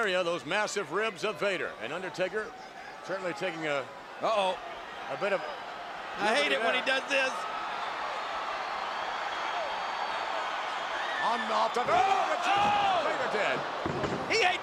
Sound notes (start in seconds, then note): 7.7 crowd cheers; 11.3 commentators exclaim